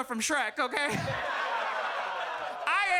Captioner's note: audience laughs